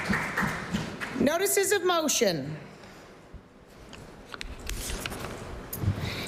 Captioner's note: applause